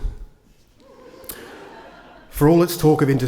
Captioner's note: attendees laugh